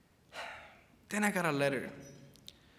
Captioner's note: sighs